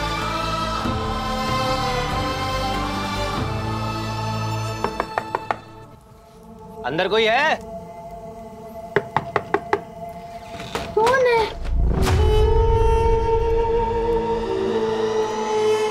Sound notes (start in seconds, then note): 4.8 knocks